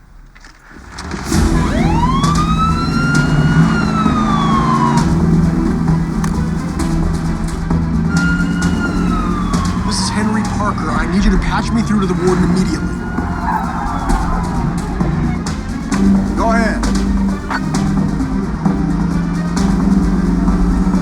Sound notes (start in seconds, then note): 7.0 siren wailing; 12.0 tires squealing